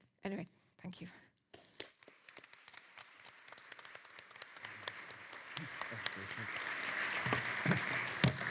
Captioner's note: audience applauding